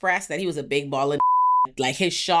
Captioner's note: beep